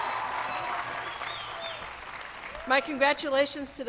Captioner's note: cheers and applause